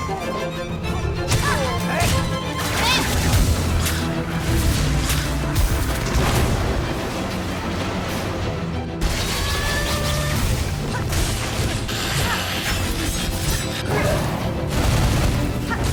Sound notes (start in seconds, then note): 0.2 thuds and groans; 7.0 grunts; 13.7 grunts